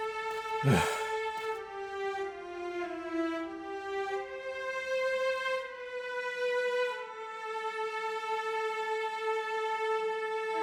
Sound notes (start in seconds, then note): 0.6 sighs